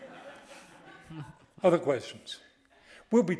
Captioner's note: audience laughing